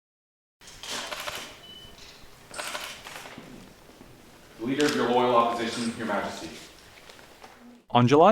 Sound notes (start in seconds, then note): 0.7 camera shutter sounds